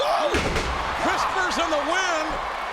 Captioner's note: bodies thud